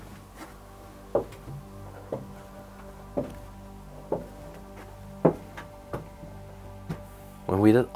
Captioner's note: footsteps tapping down stairs